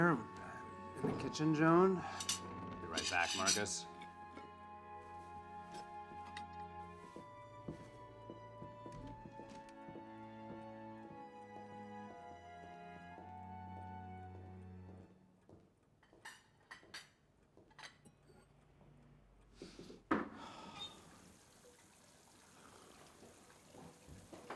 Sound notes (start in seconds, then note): 16.0 plates clacking; 19.6 Marcus sniffing; 20.3 Marcus sighing; 20.8 water running